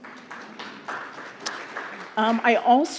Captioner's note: applause